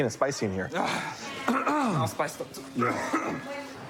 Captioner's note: clears throat; coughs